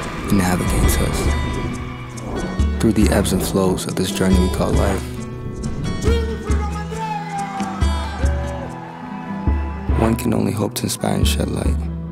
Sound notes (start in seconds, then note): 8.3 audience Cheers